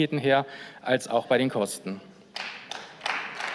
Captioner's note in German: Beifall